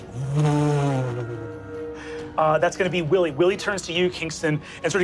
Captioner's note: imitates humming